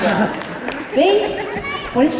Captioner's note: laughter